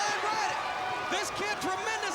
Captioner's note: crowd cheering